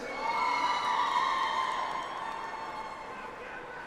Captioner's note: audience applauds